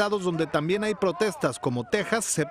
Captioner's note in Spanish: hablan inglés